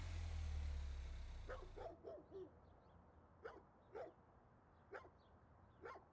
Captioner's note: dog barks